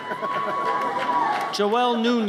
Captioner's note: audience cheers